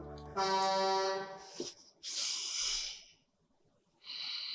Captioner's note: truck horn blowing loudly